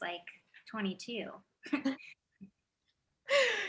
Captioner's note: laughs